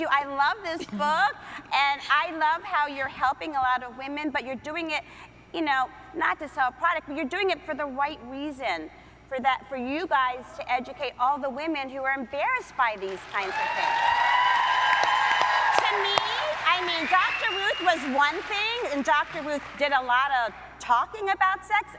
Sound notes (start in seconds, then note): 13.2 audience cheering